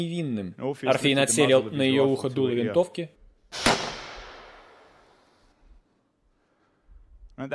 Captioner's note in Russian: Выстрел